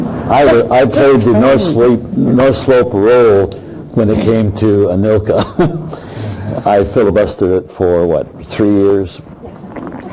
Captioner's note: laughing